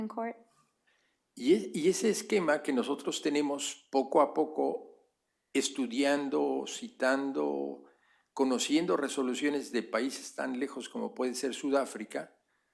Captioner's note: speaking spanish